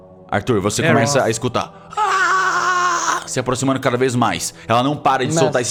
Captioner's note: grrrr